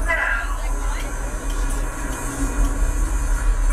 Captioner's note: engine sounds begin